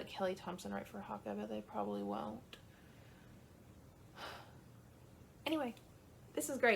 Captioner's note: sigh